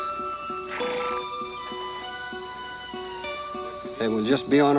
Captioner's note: horse snorts